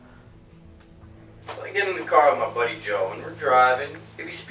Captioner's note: Marty On Radio